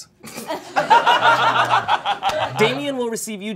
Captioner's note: all laughing